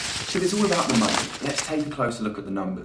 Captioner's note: money shuffling